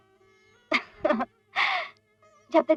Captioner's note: chuckles